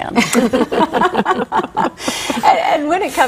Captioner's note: laughter